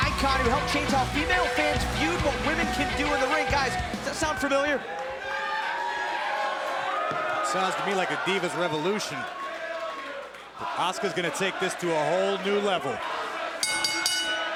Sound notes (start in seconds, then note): 9.0 crowd chatter